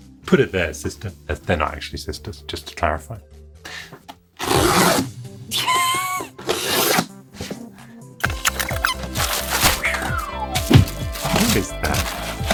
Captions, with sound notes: Put it there sister. They're not actually sisters, just to clarify. (soft snickering) (upbeat music) (paper whooshing) Kiss that.